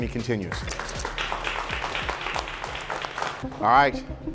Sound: clapping

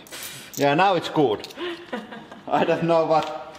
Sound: laughing

